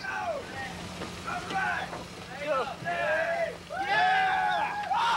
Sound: players whooping

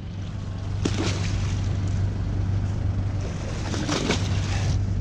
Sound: line splashes in water

